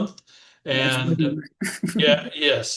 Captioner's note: laughter